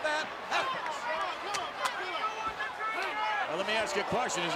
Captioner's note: crowd chattering